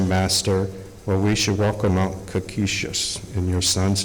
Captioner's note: speaking Algonquian